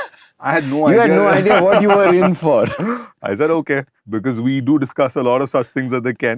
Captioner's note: laughter